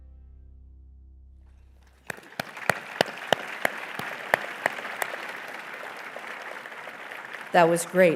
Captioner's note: applause